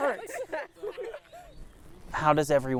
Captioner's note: team laughing on dock